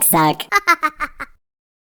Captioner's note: Laughs in Vamp